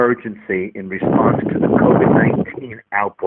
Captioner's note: blowing wind